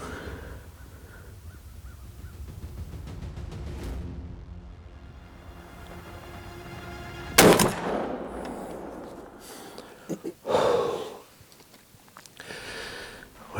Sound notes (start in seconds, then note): 3.1 suspensful music; 7.3 gun firing; 11.0 exhaling